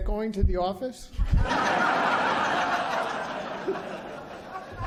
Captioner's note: laughter